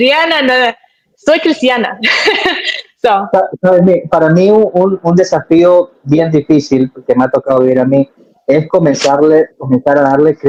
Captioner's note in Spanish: risas